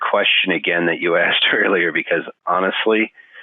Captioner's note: laughing